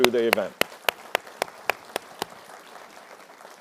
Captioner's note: applause